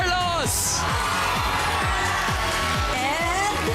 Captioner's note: audience cheering